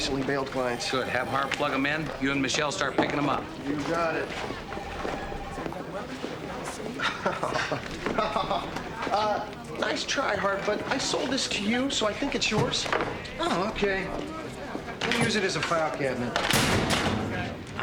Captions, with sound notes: There's more of Mr. Binx's recently bailed clients. - Good. Have Harv plug 'em in. You and Michelle start picking them up. - You got it. (laughing) Uh, nice try, Harv, but I sold this to you, so I think it's yours. - Oh, okay. I'll use it as a file cabinet.